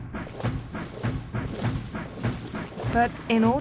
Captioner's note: military drumming; soldiers marching